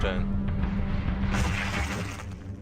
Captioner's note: grid suddenly gets smashed